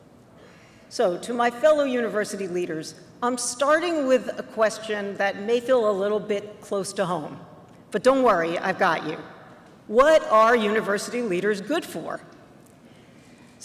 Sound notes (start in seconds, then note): none